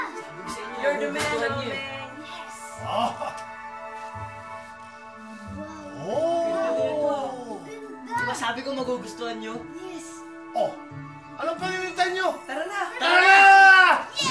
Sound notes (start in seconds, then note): 2.8 Johnny laughs; 6.1 Johnny exclaims